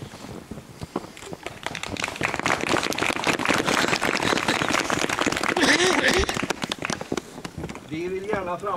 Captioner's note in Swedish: Applåder